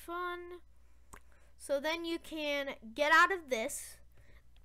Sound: lipsmack

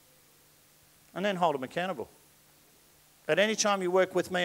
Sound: none

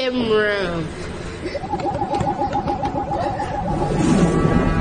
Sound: basketball vibrating

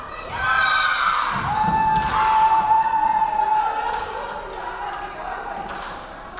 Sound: crowd cheering; referee whistling

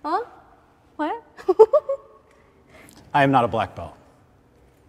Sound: giggles

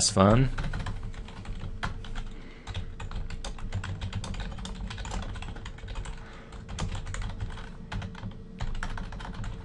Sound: typing on-screen

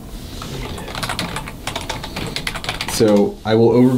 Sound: typing

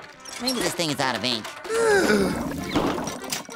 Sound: sighing

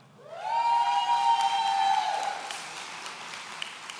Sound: audience cheering

